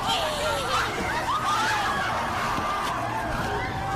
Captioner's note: screaming